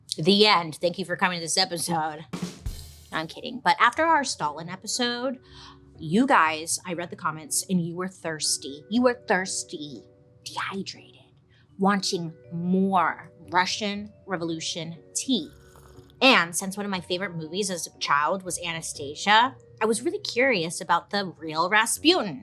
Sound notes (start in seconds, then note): 15.4 tea slurping